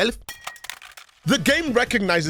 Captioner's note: clink